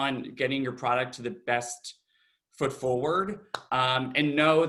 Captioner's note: claps